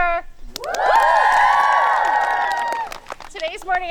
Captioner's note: campers applauding